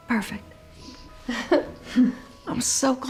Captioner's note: chuckles